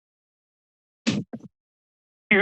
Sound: silence; thud; silence

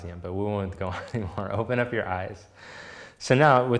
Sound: chuckling

